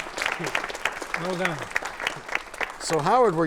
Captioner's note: applause